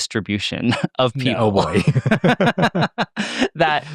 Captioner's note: laughs